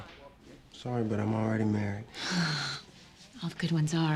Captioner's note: sighs